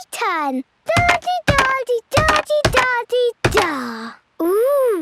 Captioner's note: thudding